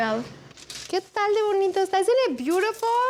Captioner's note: pati speaking spanish